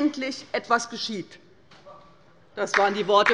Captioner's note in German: Beifall bei der LINKEN